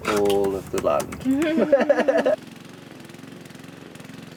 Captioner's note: laughter